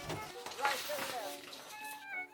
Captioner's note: sound of a printer printing stuff and things; papers shuffling